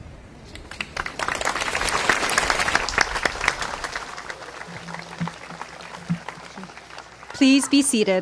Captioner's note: clapping